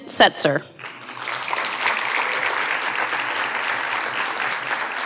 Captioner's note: audience applauding